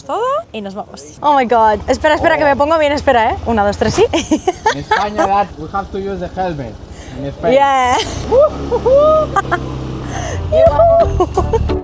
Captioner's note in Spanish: risas